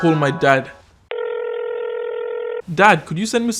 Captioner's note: phone ringing